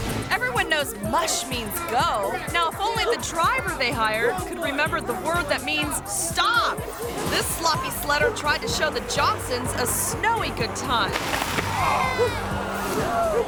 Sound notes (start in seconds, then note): 10.6 sled scratching; 11.2 sledder thuds; 12.2 crowd